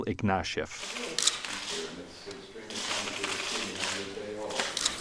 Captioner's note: camera shutter sounds